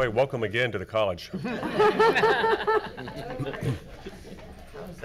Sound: board laughs

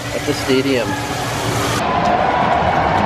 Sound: cheering noises

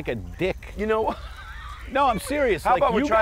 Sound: laughing

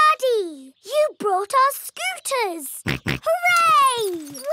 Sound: snorts

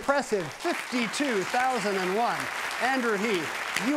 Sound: audience clapping; audience continues clapping

